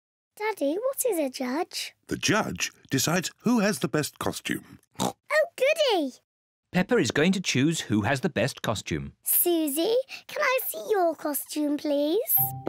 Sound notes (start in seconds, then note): 4.9 oinks